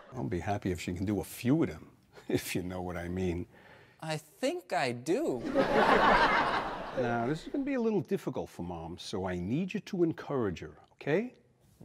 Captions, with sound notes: I'll be happy if she can do a few of them, if you know what I mean. I think I do. (audience laughs) Now this is gonna be a little difficult for mom, so I need you to encourage her, okay?